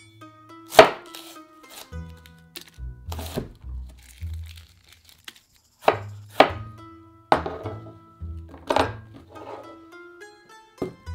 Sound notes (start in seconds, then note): 0.7 knife chopping